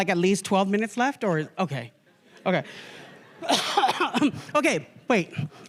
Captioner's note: laughter; coughs